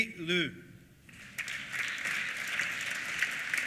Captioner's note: applause